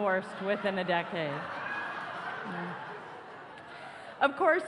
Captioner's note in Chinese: 笑聲